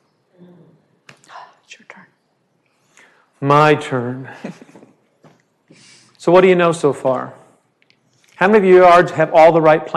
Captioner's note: whisper